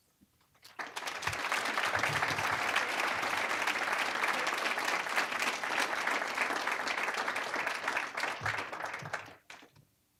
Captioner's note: applause